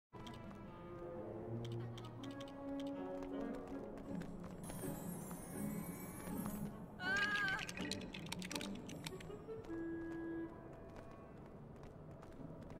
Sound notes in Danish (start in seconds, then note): 0.0 click, click click; 4.7 wand noises; 7.0 screams in horror